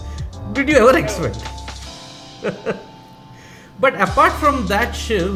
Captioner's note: chuckles